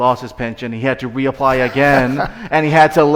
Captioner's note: laughing